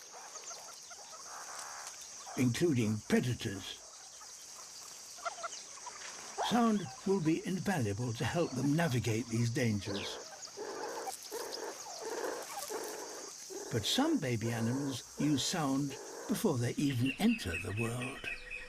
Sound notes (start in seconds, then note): 10.2 croaking